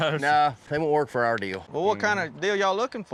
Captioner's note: chuckling